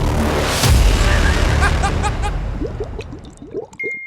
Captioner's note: laughter